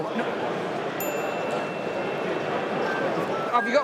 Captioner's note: tick pinging